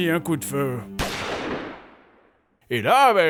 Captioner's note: gunshot